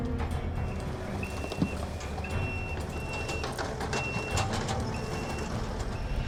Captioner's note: beeping